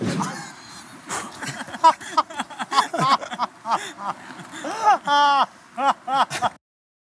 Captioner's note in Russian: смеются